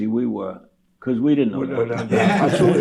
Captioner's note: laughter